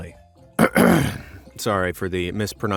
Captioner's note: cough